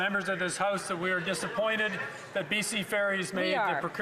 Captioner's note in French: voix de l'interprète